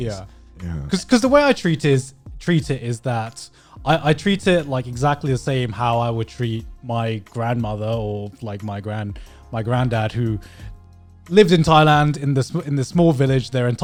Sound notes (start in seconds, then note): none